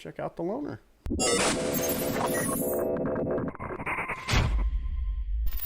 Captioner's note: futuristic sounds